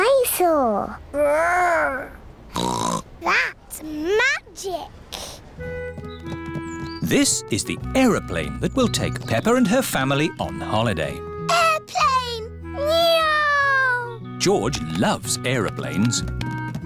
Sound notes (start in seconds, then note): 2.5 snorts